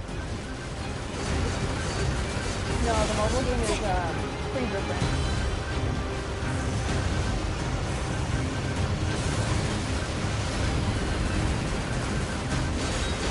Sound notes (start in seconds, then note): none